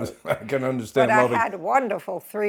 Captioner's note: chuckles